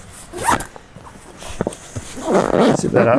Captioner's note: zipper closing